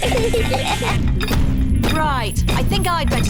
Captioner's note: feet stamping